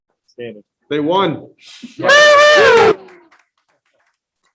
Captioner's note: group cheering